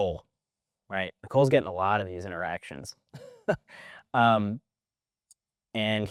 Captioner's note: chuckles